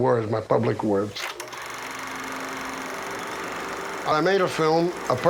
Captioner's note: film projector ticking